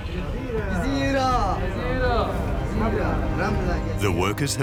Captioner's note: workers speaking Egyptian